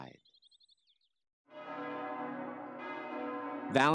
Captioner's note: church bells pealing